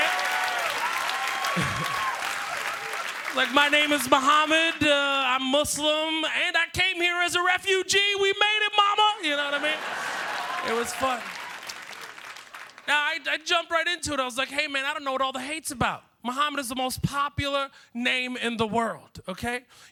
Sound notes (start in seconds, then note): 11.3 applause